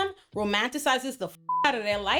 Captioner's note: beep